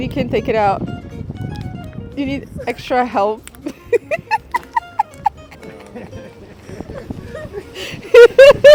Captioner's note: laughter